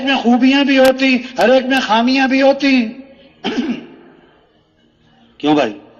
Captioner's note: खांसी; गला साफ करते हुए